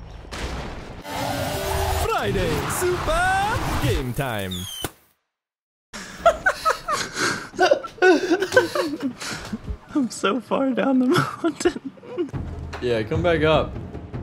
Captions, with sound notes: Friday Super Game Time (Laughing) I'm so far down the mountain. Yea, come back up.